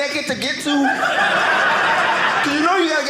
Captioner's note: audience laughing